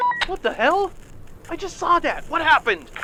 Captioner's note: walkie talkie